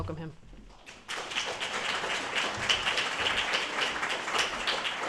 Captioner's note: applause